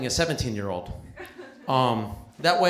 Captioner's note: laughter